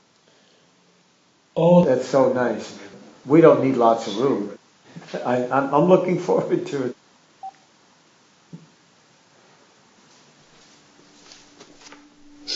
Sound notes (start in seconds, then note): 7.4 phone beeps off